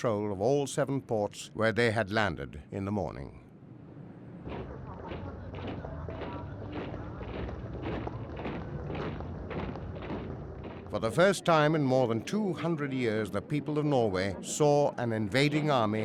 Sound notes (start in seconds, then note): 4.4 soldiers marching